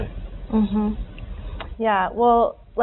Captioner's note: murmuring